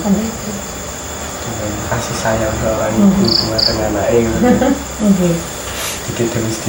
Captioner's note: laughing